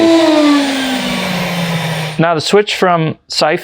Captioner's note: machine switching off